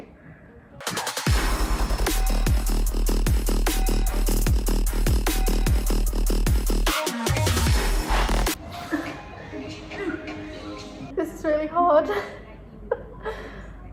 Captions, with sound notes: (intense rock music) (grunts) This is really hard. (sighs)